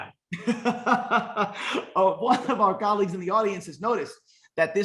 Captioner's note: laughs